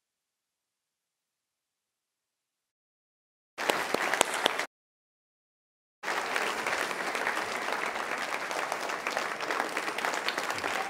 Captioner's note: applause